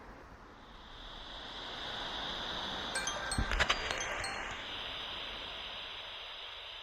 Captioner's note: hissing static rises and falls, timer on phone tinkles